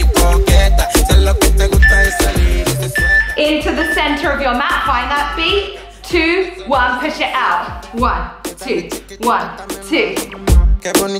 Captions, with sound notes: (timer beeps) Into the center of your mat. Find that feet. Two, one, push it out. One, two, one, two.